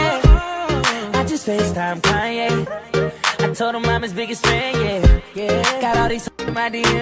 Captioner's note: blip, blip